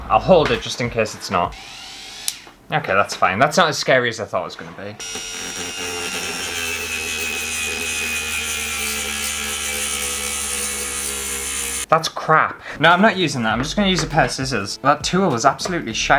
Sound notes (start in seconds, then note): 5.0 weak Electrical Saw Sounds